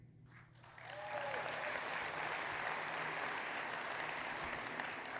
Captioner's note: audience applauding